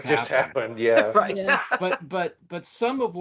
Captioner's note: laughing